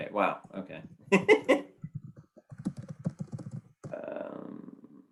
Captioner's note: chuckling